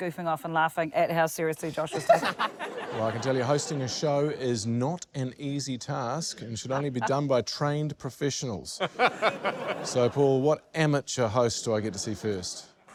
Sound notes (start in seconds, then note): 1.9 laughter; 8.8 laughter